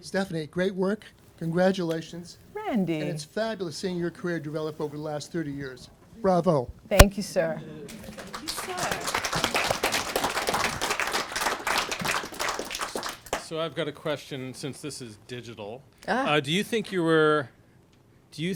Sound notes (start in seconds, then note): 7.8 applause